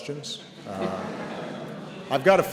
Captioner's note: laughter